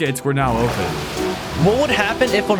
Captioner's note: water gushing